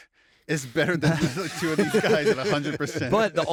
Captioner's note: laughter